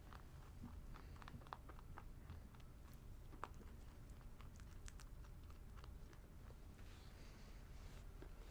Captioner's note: rabbit chewing sounds; rabbit chewing sounds INTENSIFY